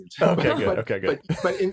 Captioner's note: laughs